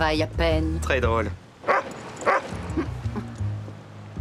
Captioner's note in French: aboiement